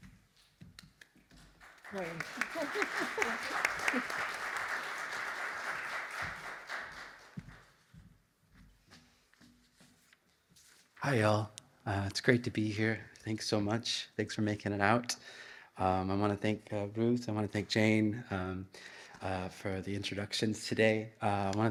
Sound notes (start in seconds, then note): 1.4 audience clapping; 2.0 laughs